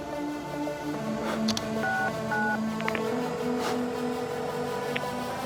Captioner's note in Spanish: Sonido al marcar